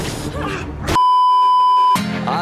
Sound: beeeeeep

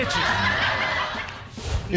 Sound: laughter

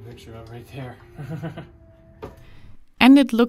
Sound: chuckling

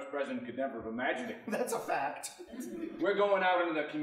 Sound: laughing

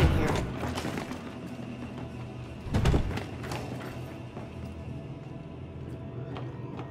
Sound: door closes

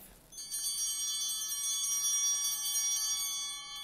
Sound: bell ringing

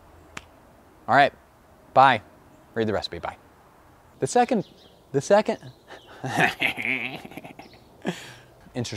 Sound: extended gremlin cackle

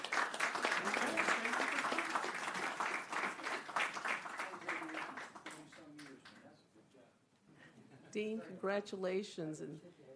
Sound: applause

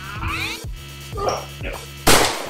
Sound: struggling; bang!

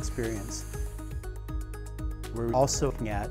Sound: drone flying; upbeat music continues

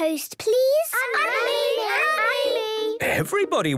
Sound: all calling out

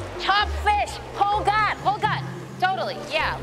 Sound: non-english speech

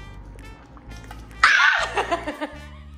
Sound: screams

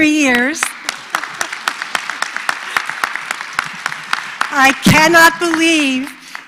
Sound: applause

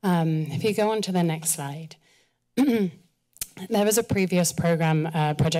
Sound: clears throat

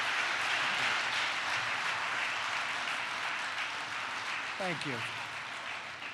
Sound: applause

